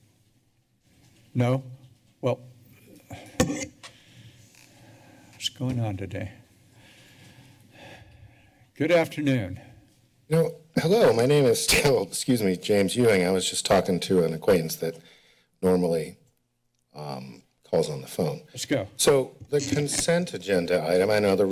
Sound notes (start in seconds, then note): 11.6 coughs